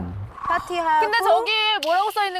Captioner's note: sound of a discovery